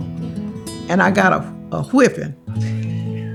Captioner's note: off camera laughing